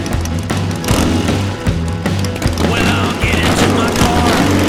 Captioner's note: engines revving